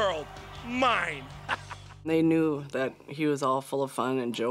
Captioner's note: laugh